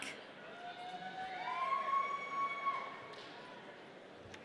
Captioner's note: audience cheering